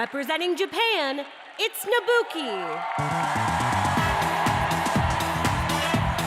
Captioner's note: cheers and applause